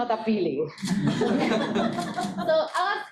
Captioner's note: students laughing